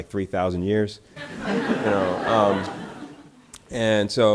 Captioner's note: audience laughter